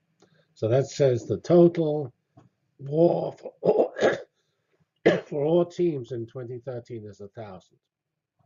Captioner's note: cough